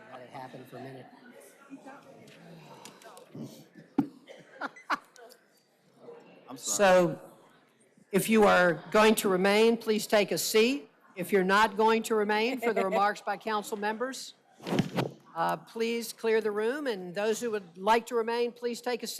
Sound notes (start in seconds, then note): 2.8 laughter